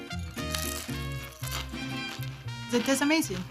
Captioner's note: crunching